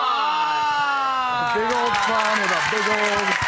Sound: audience cheering and applauding

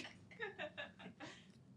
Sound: laughs

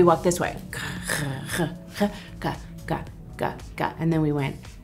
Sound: Jennifer humming

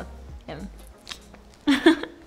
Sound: Nicola chuckles

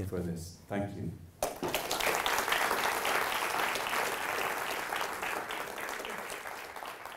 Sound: audience applause

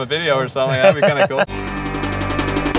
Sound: laughter

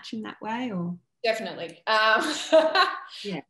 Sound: laughs

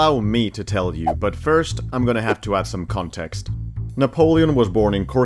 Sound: none

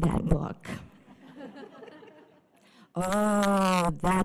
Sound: audience laughter

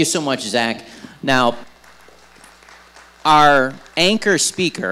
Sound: audience applauding

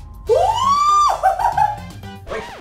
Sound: screaming

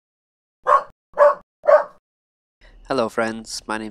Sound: dog barks

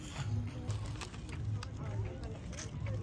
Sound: sweeping

